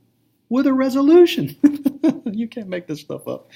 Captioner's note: laughter